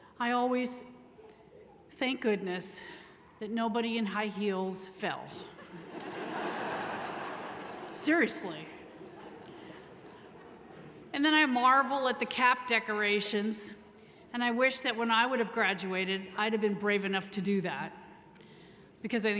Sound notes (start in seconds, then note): 5.6 audience laughing